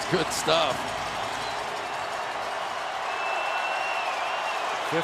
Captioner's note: crowd cheering